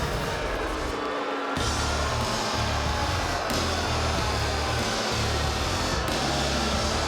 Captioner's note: crowd boos; upbeat music